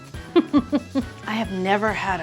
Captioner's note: giggles